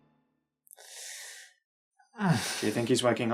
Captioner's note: groaning